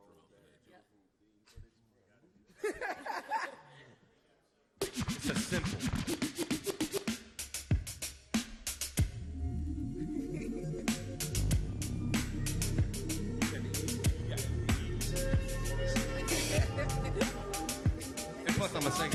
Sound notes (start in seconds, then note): 2.5 both laugh; 4.8 upbeat music